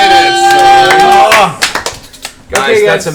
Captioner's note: all cheer